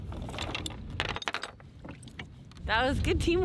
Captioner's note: chain rattling